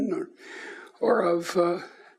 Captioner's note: none